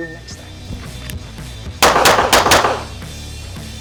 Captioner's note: gunshots